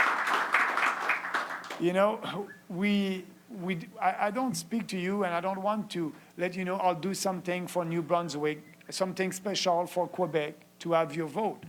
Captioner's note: applause